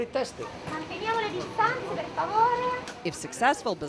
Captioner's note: speaking in Italian